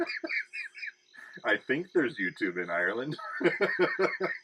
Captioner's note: laughing